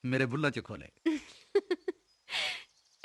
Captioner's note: chuckling